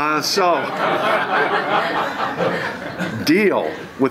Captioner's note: laughter